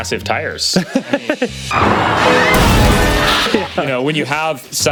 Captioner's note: laughs